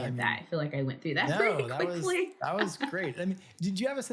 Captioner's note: laughs